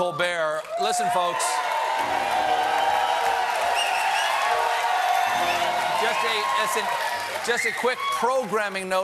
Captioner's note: cheers and applause